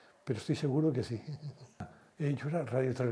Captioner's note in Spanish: Ríe